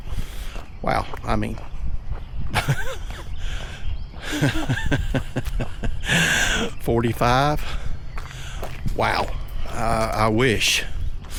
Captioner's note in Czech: smích